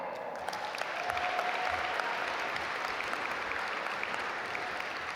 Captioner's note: audience applaud